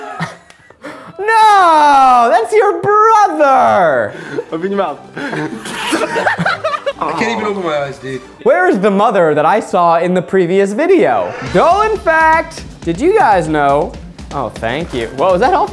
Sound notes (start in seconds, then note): 5.1 laughing